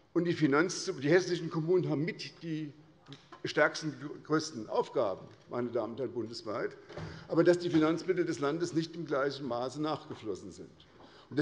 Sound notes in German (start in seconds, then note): none